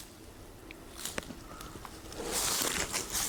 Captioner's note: rustles